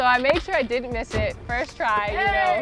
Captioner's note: laughs